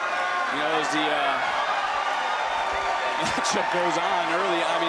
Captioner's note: crowd cheers